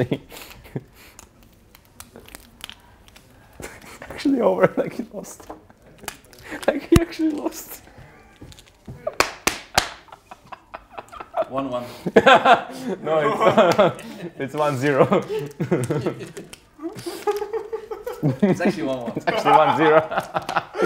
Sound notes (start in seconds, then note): 8.9 laughs, slaps his thigh; 12.7 laugh; 14.8 laughing; 16.8 everyone laughs; 19.5 laughs; 19.9 laughing